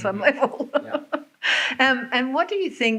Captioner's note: laughs